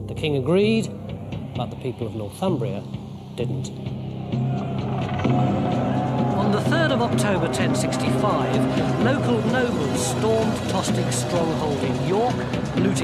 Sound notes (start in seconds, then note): 3.9 suspenseful music; 5.2 men shouting